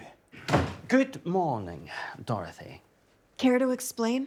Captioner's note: door clattering